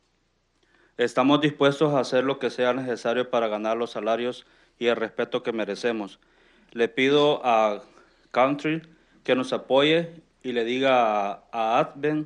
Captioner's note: speaking in Spanish